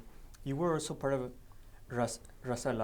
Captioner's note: speaking foreign language